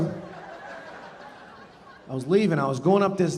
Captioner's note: audience laughing